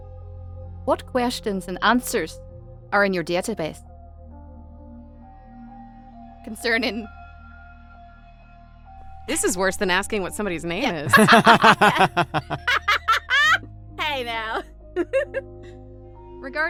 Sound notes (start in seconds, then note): 11.0 laughs; 14.7 laughs